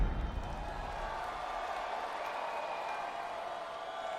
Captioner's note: crowd cheers